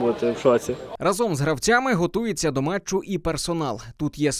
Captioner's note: voiceover